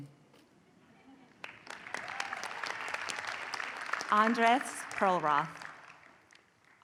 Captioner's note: applause